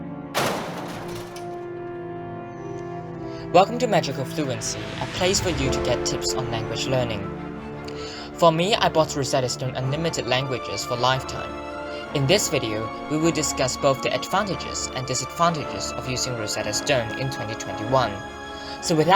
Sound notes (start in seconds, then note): 0.3 explosion